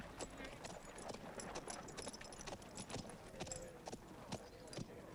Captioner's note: townsfolk chattering